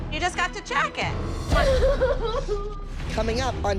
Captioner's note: sobbing